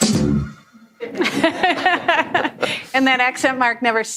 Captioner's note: laughing